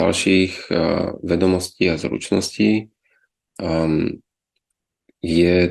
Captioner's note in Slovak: odkašľanie